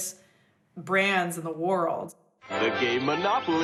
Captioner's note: soundbite of archived recording